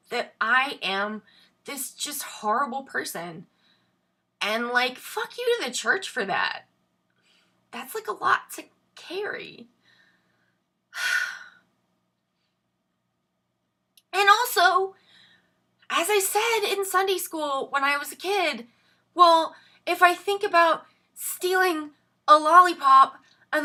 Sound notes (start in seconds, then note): 11.0 sighs